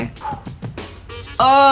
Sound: exhales; moans

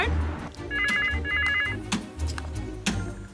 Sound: phone rings

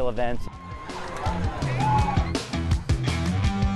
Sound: cheering

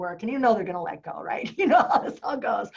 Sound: laughter

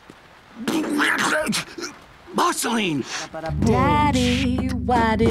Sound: sputters

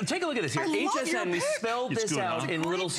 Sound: laughter

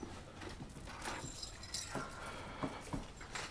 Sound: keys jingling

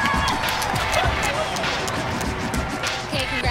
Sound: applause

